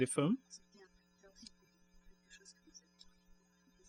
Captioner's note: speaking french